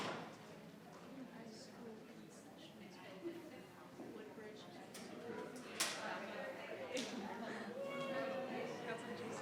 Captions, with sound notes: - Woodbridge. (members chattering)